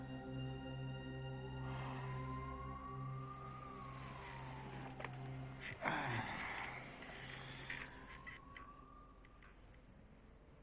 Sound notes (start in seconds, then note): 3.8 Jeff sighs